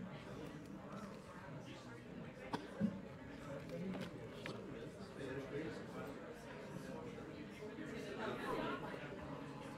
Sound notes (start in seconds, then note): 2.6 people chattering